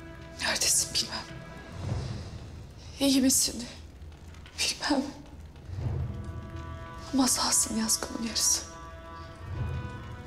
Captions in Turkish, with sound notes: Nerdesin bilmem. İyi misin... (Nefes veriyor.) ...bilmem. Ama sağsın yazgımın yarısı...